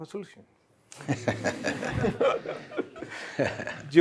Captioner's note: laughter